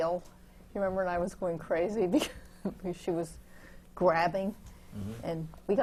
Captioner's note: laughs